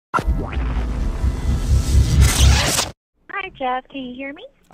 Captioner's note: tech sounds